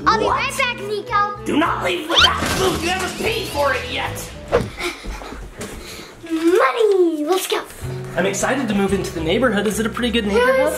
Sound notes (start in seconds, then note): 4.6 breathing heavily